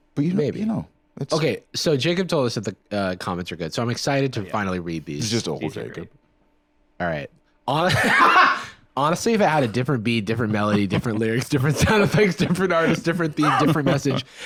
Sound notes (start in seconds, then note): 7.8 laughs